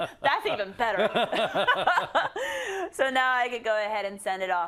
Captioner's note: laugh